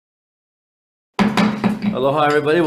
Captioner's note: gavel banging